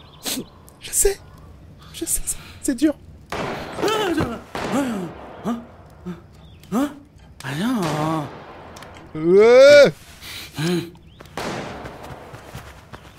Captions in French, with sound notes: *Pleure* Je sais, je sais. C'est dur. *Explosions*